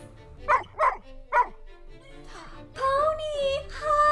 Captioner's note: Pony barks